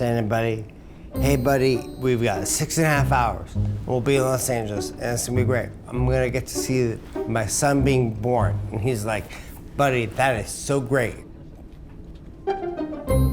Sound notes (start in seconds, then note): none